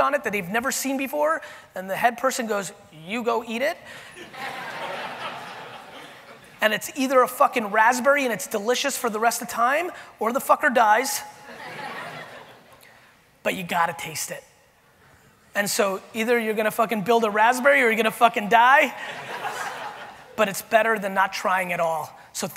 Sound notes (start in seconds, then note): 4.1 audience laughing